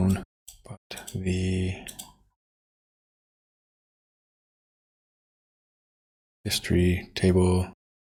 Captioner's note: silence